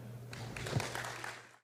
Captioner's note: applause